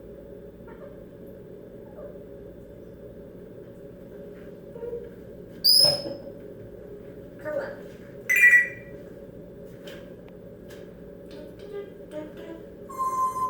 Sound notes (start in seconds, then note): 4.7 more "boop boop" and smoke detector sound; 8.3 phone ring; 11.6 singing to herself